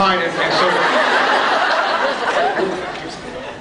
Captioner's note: laughs